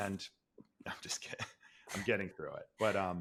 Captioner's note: laughs